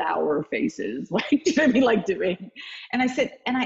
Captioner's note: laughing